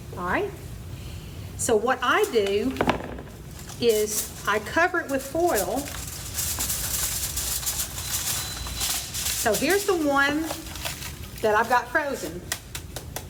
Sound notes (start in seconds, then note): 7.2 electronic beep; 7.2 foil crackling